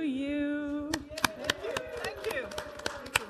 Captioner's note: audience applauding